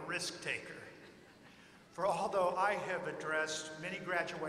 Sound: laughter

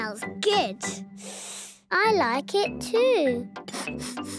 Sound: sniffing; sniffs

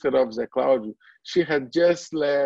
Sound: foreign language

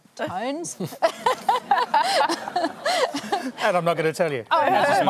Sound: laughs

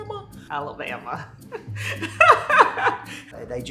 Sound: laughs

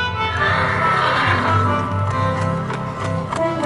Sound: horse neighs

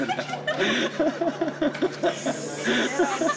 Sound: both laughing

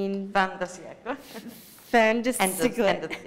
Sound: speaking italian

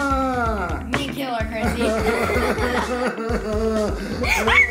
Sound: whimpering

